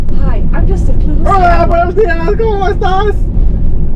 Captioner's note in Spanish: dice algo gracioso en español